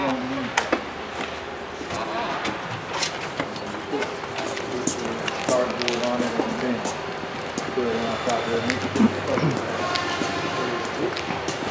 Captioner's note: no dialogue--noise of machinery